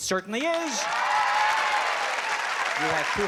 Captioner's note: cheering